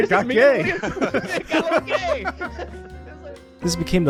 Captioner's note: all laughing